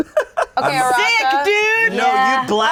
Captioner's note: laughs